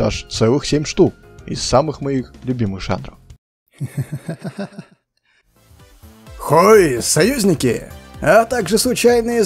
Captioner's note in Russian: смех